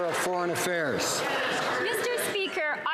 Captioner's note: some Applause